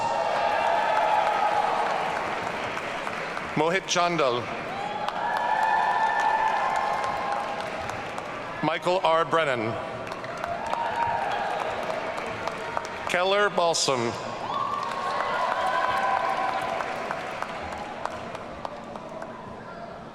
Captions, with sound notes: (audience cheering) Mohit Chandel. (audience cheering) Michael R. Brennan. (audience cheering) Keller Balsam. (audience cheering)